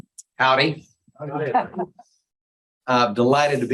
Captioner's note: audience laughing